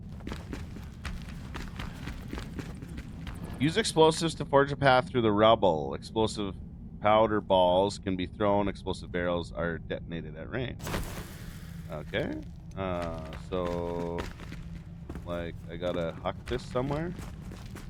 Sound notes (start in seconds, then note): 13.9 fire crackles